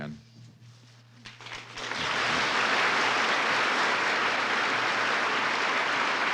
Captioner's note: thunderous applause